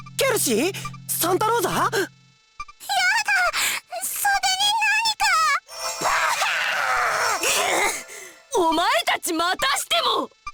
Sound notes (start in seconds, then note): 6.8 huff